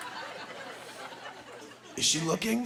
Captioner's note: laughing